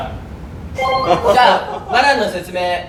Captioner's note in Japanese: 笑い声